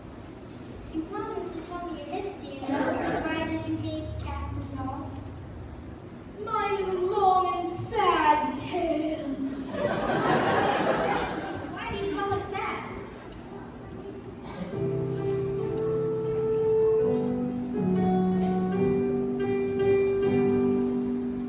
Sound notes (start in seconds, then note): 9.6 laughter; 14.8 piano intro to song starts